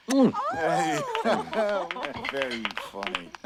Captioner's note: applause